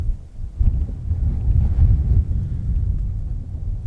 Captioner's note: wind blowing